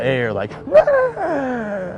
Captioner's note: deep breathing noise